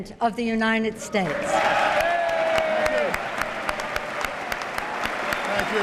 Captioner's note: applause